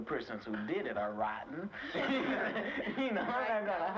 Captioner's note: laughs